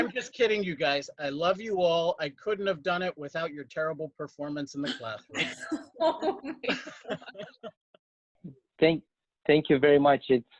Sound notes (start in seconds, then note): 6.0 all laugh